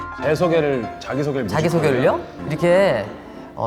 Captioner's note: chitter chatter